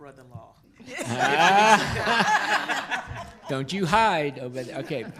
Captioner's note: laughs